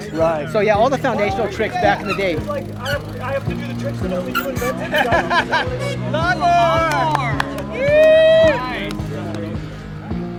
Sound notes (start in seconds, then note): 4.4 man laughing; 7.8 man exclaims